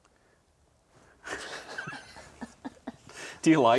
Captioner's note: chuckles